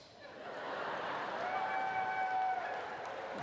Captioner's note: laughter